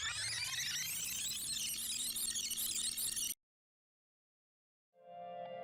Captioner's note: record scratches, tape rewinds